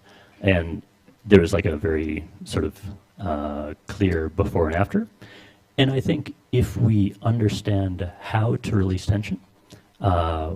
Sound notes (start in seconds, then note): none